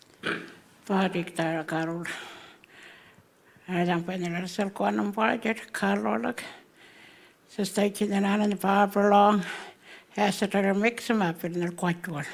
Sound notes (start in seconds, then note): 0.9 speaking Anmatyerr